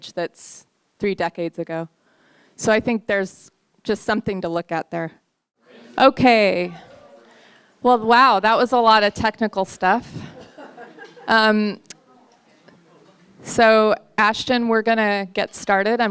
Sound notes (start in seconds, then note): 10.3 courtesy chuckles